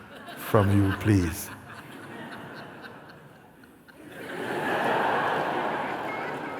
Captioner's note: laughter